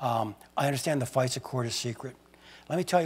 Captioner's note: none